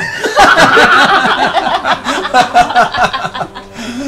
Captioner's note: laughter